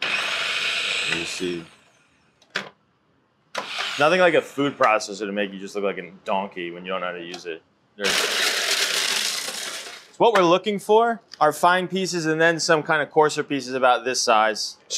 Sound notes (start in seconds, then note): 0.0 food processor whirs; 8.0 food processor whirs